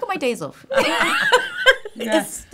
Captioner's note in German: lachen